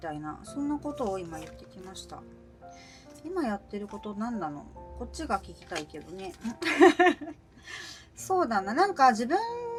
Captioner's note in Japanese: 笑い